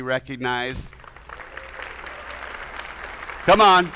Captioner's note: attendees applauding; audience cheering